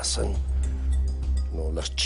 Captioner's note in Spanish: none